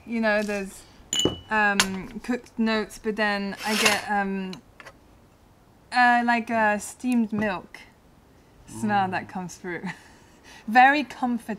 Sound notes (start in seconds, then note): 9.0 laughter